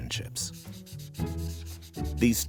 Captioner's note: light upbeat music; eraser erasing